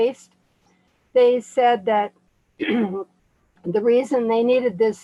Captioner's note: clearing throat